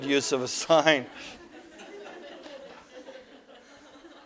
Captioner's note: audience: Laughter